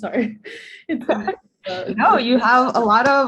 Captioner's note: laughter